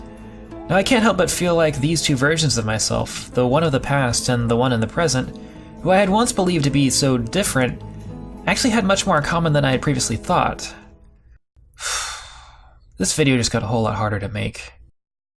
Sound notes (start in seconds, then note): 11.8 sighs